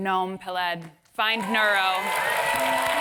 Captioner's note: applause